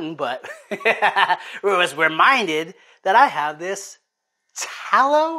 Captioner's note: laughs